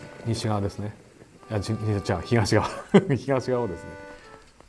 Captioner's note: laughter